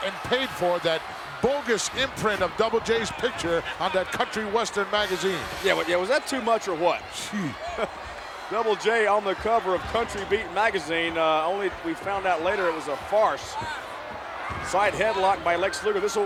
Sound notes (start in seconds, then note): 7.2 laugh